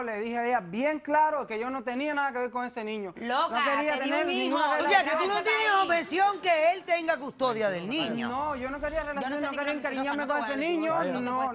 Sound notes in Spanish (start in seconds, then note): 4.9 Hablan al unísono